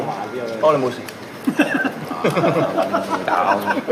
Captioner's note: OR KIA laughs